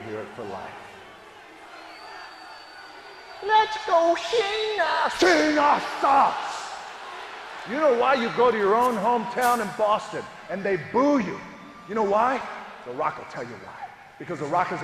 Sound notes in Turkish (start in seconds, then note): 0.0 Alkışlar